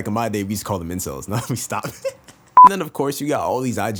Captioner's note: adorable laughter